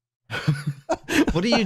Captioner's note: laughter